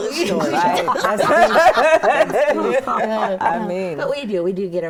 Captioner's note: all laughing